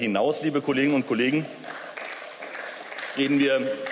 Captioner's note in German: Beifall